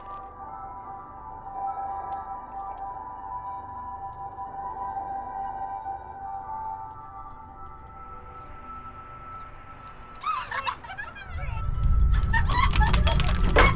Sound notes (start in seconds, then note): 10.2 laughter